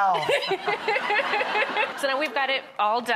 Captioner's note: audience laughs; laughs